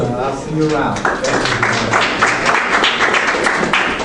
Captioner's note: applause